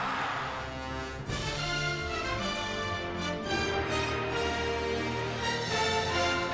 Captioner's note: cheering